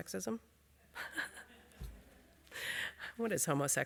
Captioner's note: chuckles